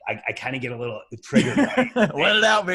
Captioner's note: laughs